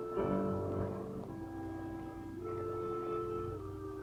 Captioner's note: wind whooshing